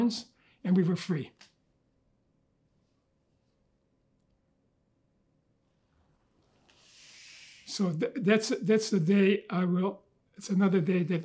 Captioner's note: pauses 6 seconds